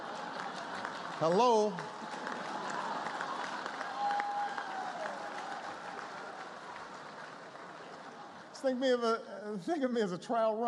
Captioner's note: laughter